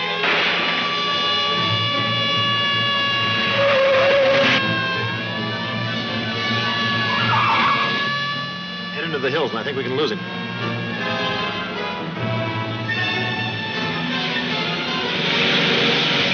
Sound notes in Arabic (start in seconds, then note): 3.8 اصرير الاطارات; 12.9 موسيقى درامية ناعمة